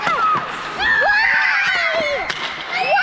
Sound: screams

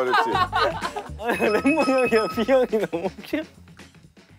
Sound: unable to control his laughter

